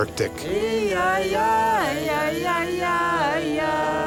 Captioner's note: chanting